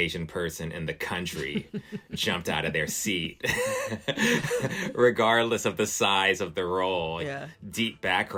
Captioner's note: laughter